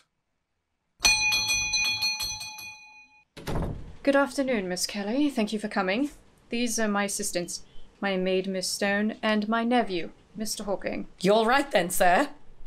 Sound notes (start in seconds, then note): 1.0 doorbell rings; 1.3 door opens and closes